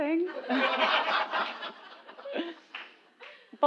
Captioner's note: laugh